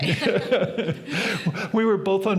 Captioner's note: both laughing